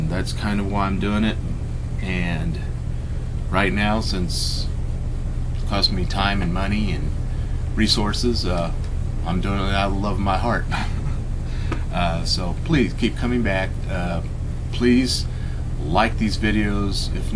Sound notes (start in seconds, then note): 10.6 laugh